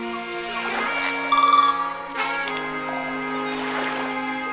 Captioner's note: sea gull noises